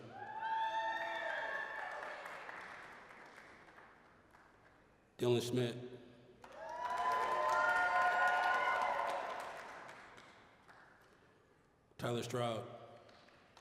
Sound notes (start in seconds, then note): 0.0 applause, cheering; 6.4 applause, cheering; 13.0 applause